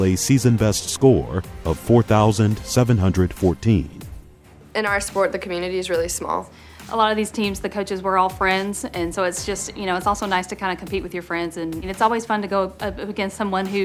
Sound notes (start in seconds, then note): 4.8 voiceover